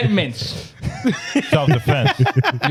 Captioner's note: laughing